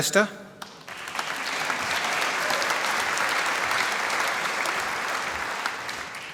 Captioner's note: applause